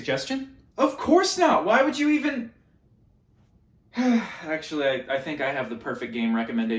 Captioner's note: sigh